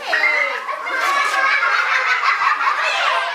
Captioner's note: laughing